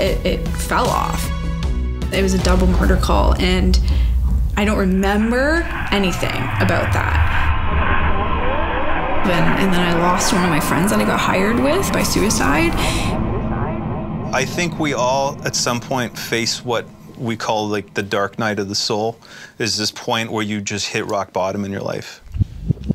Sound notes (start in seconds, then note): 6.9 radio cracking